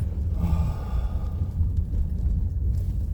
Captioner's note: sighs